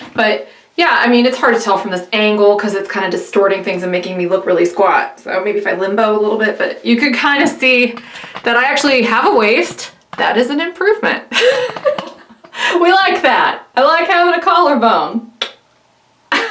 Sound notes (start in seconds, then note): 11.3 laughs